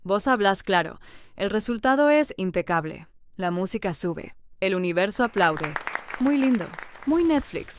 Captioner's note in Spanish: aplausos; ovación